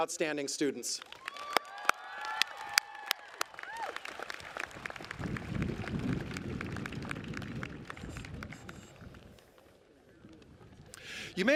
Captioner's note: applause